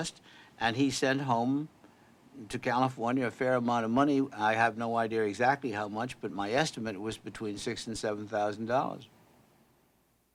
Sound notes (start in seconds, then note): none